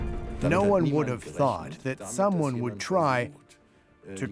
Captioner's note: in German